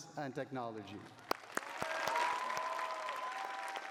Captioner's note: cheering